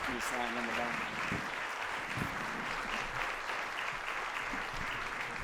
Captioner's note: applause